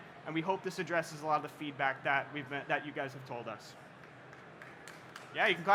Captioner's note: applause